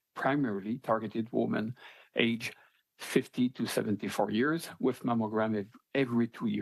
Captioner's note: speaking French